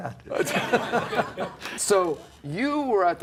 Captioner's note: laughs